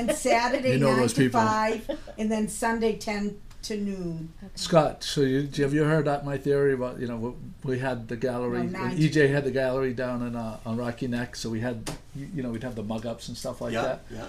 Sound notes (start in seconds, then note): 0.2 voiceover; 4.5 voiceover